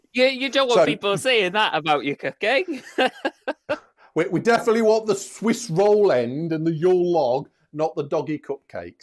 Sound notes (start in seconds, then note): 2.7 laughs